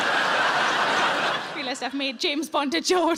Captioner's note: audience laughs